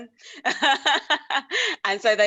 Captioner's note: laughs